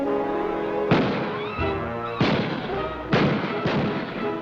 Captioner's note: gunfire